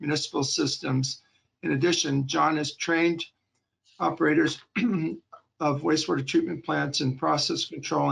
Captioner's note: clearing throat